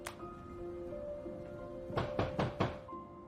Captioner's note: knocking at door